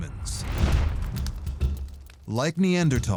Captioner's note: fire crackling